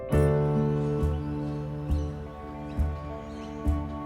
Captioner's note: birds chirping